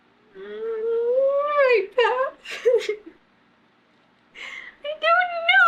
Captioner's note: laughs